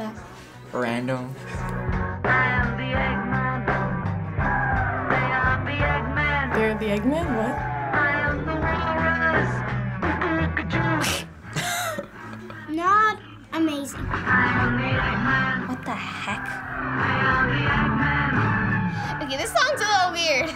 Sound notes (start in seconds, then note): 11.4 snickers; 11.5 chuckles